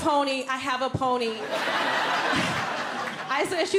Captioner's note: audience laughing